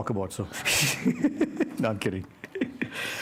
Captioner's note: laughter